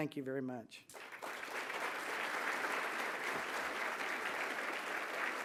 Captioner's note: applause